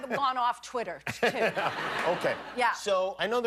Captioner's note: laughter